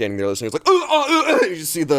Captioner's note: grunts